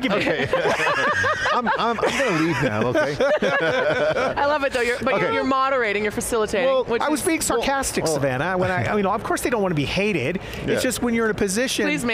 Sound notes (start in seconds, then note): 0.0 laughing; 3.2 team laughing